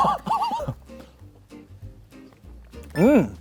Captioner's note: slurp